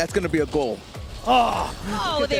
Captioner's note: groans